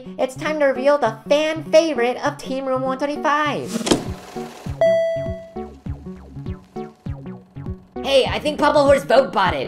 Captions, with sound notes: It's time to reveal the fan favorite of Team Room 125! [ding] Hey, I think Pommel Horse votebotted.